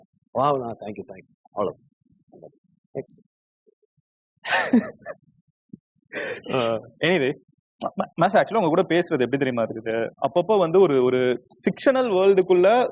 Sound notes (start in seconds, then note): 4.5 laughs